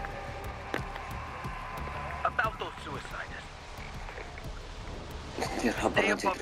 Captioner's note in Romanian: Aplauze